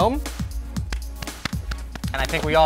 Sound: light applauding

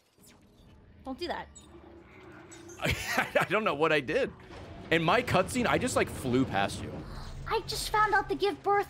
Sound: laughs

